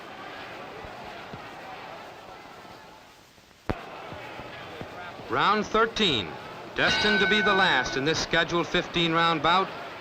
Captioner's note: bell